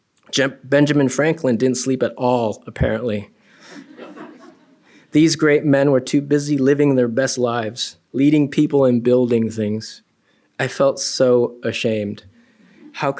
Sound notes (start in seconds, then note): 3.6 laughter